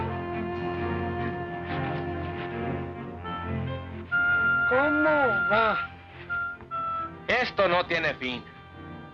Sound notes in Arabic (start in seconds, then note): 4.5 الرجل يتحدث الاسبانية; 7.2 رامون يتحدث الاسبانية